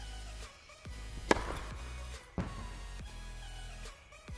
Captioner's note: ball whacks